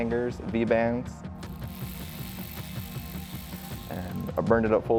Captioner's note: unscrew vibration